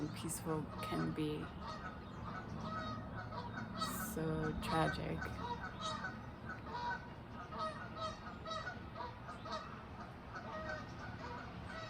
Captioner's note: geese honking